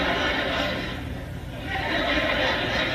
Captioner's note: more ruckus laughter; cracks himself up